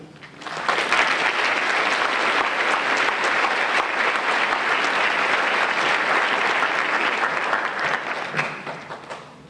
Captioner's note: applause